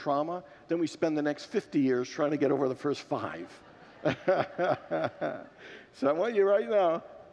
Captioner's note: laughs with congregants